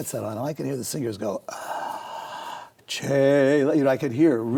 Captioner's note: inhales